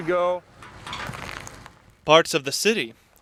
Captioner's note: creaking